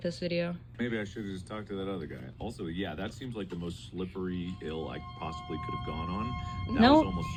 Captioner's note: mark's video plays in background; ominous music